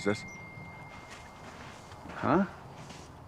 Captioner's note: phone dinging